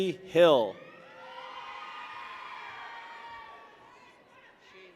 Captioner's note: people cheer